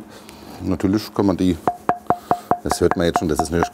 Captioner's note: knock